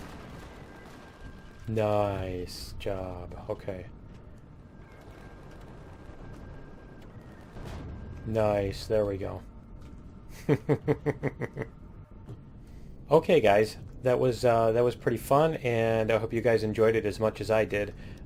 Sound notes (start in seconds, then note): 0.0 turrets firing; 7.4 turrets firing; 10.4 laughs